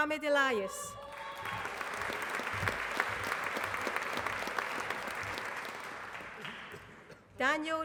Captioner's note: applause